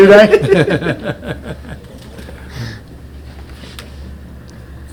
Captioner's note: Richard chuckling